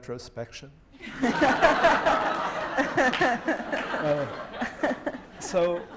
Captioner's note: laughter